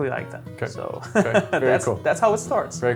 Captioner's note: laughs